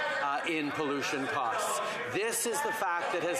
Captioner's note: yelling